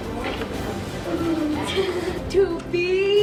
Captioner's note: giggling